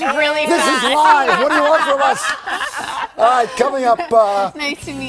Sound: laughter

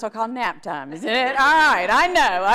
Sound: audience laughs

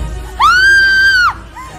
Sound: shouts

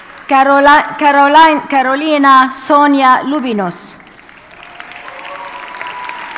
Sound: audience cheers and applauds

